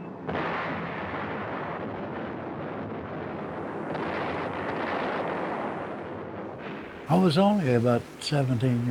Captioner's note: bombs exploding